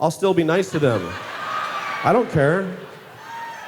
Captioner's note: laughter